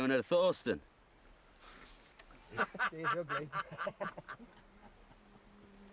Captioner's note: men laugh